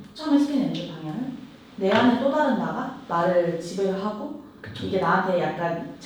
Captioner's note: none